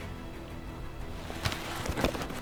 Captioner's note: elk bugling